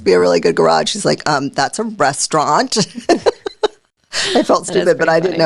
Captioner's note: laughing